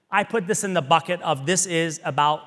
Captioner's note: none